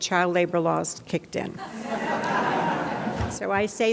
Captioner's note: audience laughs